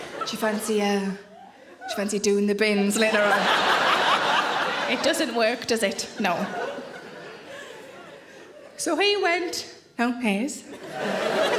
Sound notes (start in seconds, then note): 0.0 audience laughing and applauding; 2.8 audience laughing loudly